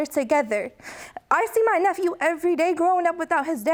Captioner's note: voice breaking